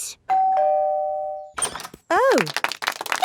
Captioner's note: doorbell ringing; crowd applauding